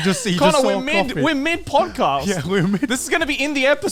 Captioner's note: laughs